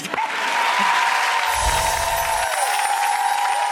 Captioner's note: applause